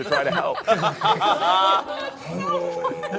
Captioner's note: all laughing